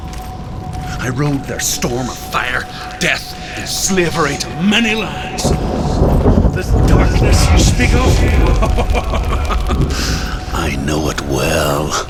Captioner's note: laughs